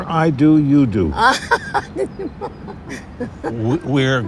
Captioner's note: laughing